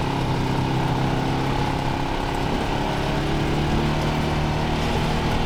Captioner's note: car whirring continues